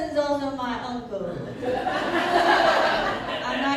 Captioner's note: laughter